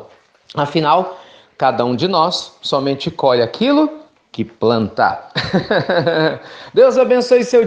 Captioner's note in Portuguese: risos